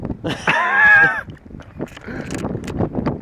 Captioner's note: laughs